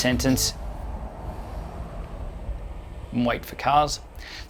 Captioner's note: car whooshing